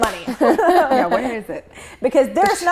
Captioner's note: all laughing